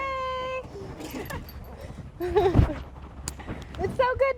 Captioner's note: laughing